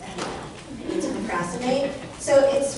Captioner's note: audience laughter